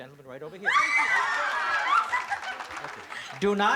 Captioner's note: cheering